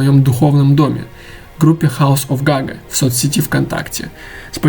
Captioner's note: Russian